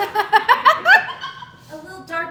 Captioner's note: audience Laughing